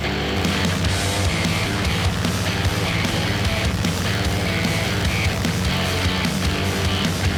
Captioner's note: airboat motor running; fan blowing